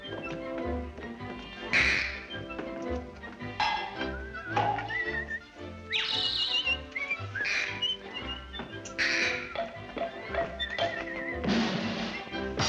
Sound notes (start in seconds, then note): 4.0 whistling; 8.8 loud squeak; 11.0 drumroll; 12.4 cymbals crash